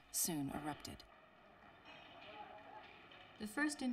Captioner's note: explosions; people yelling